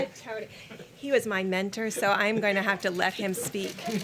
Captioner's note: laughter